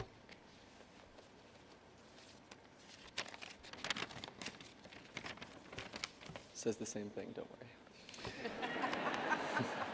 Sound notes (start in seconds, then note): 2.8 sound of pages on podium; 8.2 laughter